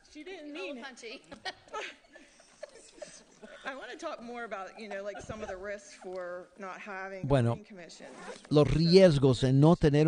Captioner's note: laughter